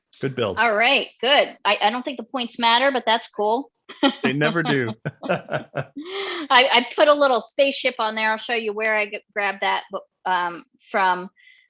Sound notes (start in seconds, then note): 3.9 laughing